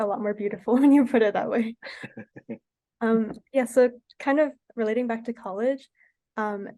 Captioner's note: laughs